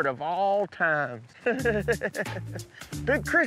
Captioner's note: chuckling